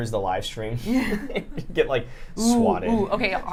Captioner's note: light laughter